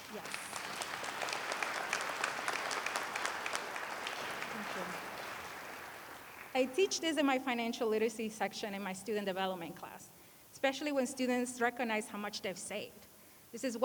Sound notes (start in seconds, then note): 0.0 applause